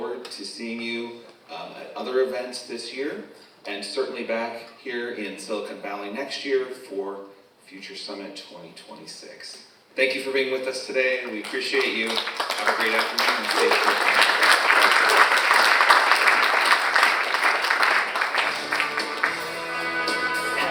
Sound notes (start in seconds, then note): 14.0 participant cheering; 14.6 all applauding; 18.4 upbeat rock music